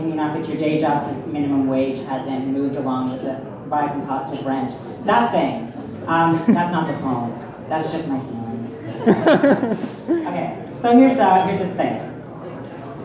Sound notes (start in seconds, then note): 8.9 crowd laughter